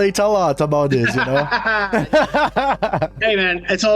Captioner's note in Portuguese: risadas